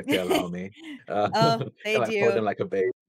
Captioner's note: laughs